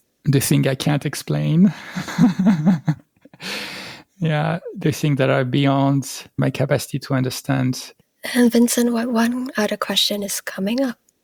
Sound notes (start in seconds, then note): 1.7 laughter; 3.4 breath